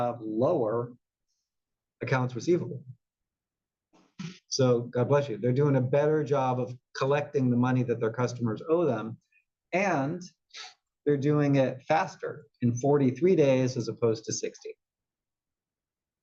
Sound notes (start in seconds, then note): 4.1 cough